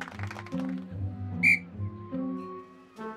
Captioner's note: tweet